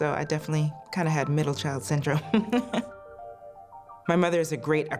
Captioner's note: laughs